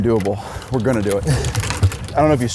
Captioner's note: laughs